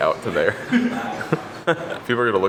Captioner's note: giggle